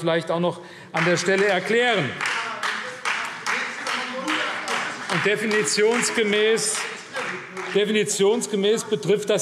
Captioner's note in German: Beifall CDU und Freie Demokraten - Zuruf DIE LINKE